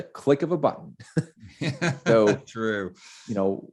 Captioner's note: laughing